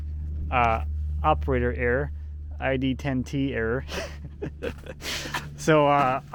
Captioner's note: laughs